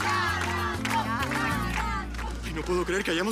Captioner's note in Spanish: Arengas del público